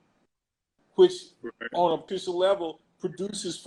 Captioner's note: glitch